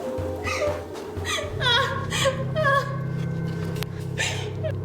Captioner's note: sobbing